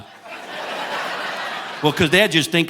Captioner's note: audience laughing